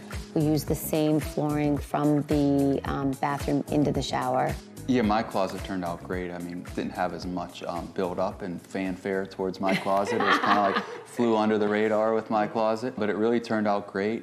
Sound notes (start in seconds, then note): 9.6 laughter